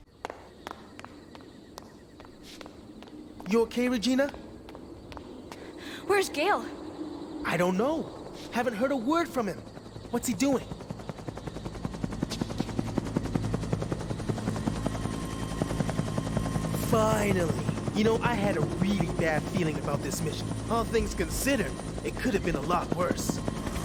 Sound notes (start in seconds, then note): 0.2 footsteps; 13.8 helicopter approaches